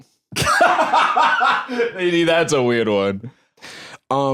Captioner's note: laughs